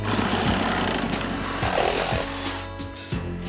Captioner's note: tool whirring